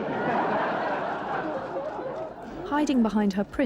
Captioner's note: audience laughing